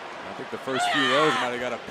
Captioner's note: Baszler shouting